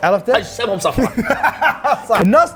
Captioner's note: laughs